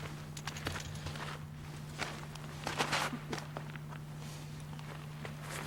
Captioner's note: wolf breathing heavily